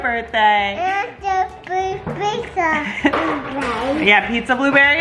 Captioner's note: babbles